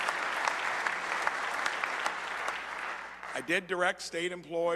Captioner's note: applause